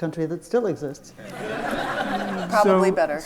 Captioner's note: audience laughs